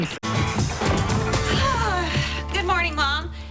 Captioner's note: sighs loudly